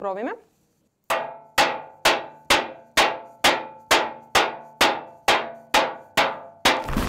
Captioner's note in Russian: звуки ударов по металлическому подносу